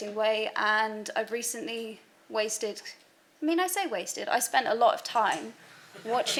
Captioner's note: background laughter